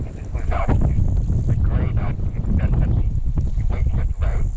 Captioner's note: wind drowns out radio